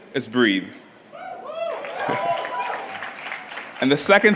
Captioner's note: cheers and applause